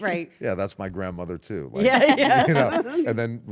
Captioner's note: laugh